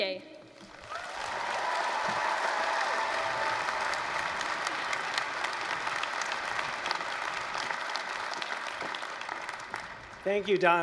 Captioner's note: applause, cheering